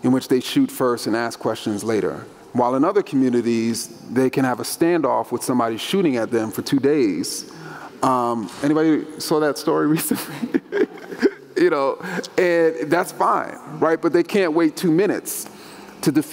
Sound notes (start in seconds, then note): 10.2 laughs